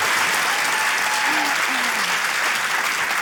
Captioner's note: cheering, applause